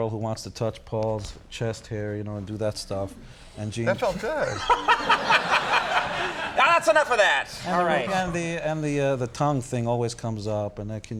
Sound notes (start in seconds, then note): 3.9 Conan laughs; 4.9 audience laughs